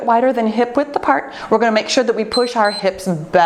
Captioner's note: timer beeps